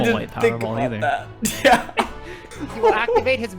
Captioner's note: laughs